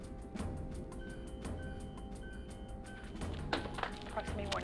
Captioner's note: beeping